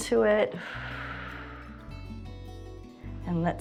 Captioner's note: exhales